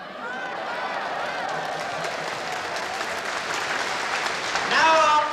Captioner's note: applause